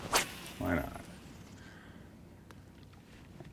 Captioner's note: rod whipping; reel spinning